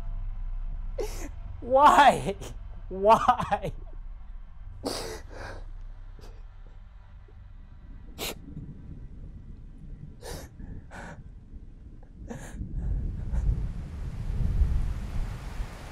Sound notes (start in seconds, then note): 4.8 quiet sobbing; 11.6 sounds of stormy weather